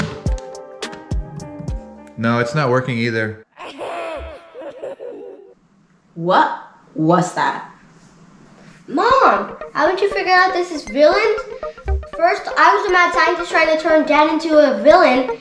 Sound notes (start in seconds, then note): 3.6 creepy laugh